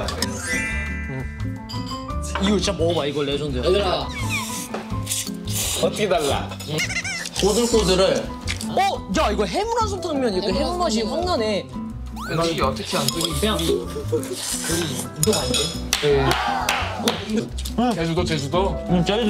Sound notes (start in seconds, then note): 4.2 inhaling noodles; 12.2 eating